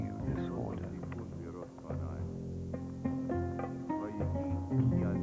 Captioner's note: man Reciting Text